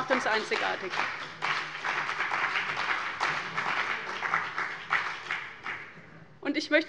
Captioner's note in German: Beifall bei dem BÜNDNIS 90/DIE GRÜNEN und der CDU